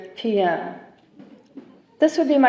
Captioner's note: chuckling